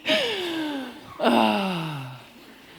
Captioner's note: laughter